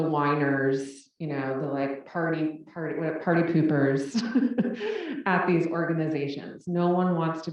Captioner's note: laugh